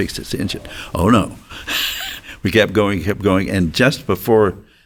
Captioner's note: chuckles